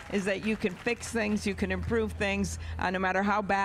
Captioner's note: applause